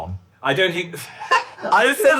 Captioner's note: laughs